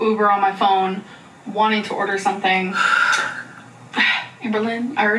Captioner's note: sighs